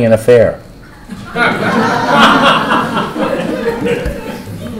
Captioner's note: laughter